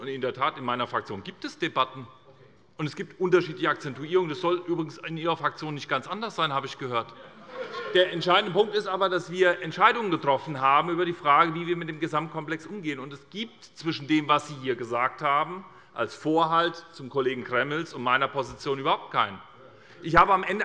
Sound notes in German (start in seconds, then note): 7.1 Heiterkeit bei der SPD